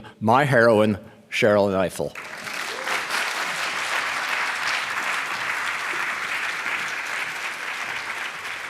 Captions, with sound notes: my heroine, Sherrilyn Ifill. [APPLAUSE]